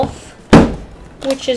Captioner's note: bang